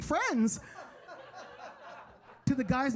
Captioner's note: audience laughing